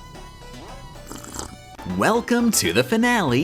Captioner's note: sip